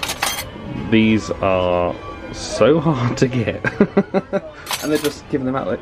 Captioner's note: laughs